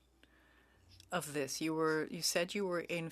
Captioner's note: speaking French